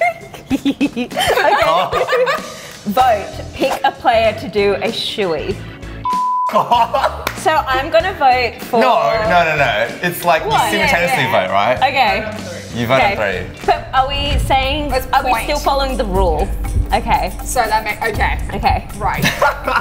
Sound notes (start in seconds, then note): 0.0 giggling; 6.0 beep; 19.1 laughing